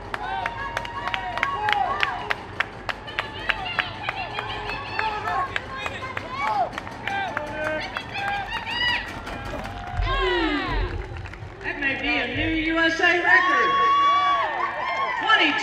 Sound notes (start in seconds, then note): 0.1 crowd cheering; 4.8 crowd